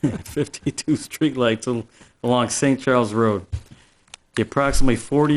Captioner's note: laughs